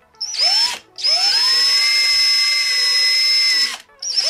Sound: drill running

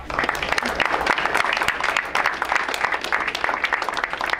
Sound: crowd applauds

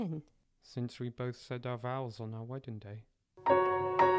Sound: In Daraka's voice

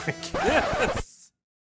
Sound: disc scratch

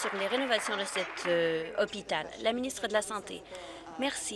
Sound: applause

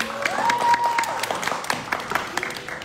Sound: audience cheering; audience clapping

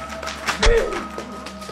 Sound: stab

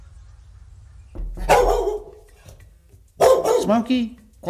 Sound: barking

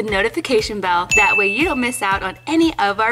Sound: bell dings

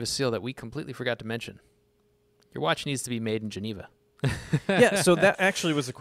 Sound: laughs

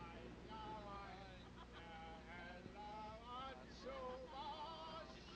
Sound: people laughing

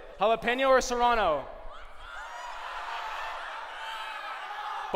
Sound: shouting

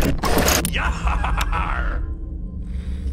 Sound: pirate laughing

